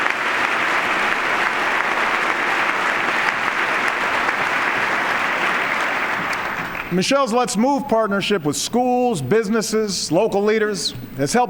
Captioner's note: applause